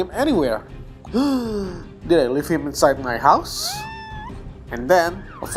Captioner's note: gasp